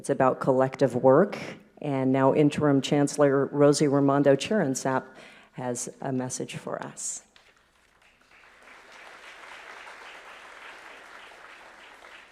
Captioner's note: applause